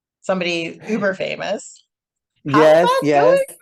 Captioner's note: singsong